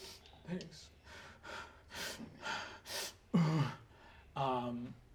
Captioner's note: breathing heavily and sniffling